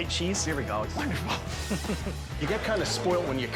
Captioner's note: laughs